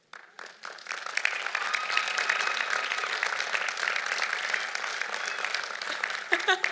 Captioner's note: applause; laughs